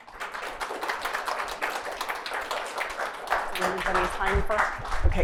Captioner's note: audience applauds